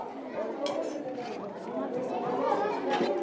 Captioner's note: chatter